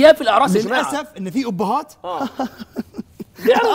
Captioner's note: laughing